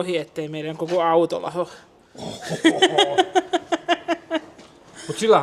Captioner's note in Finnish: naurua